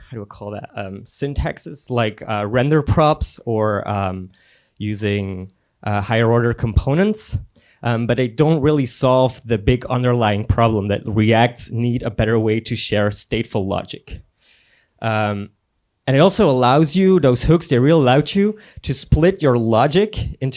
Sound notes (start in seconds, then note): none